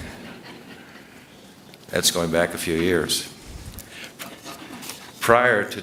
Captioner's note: laughter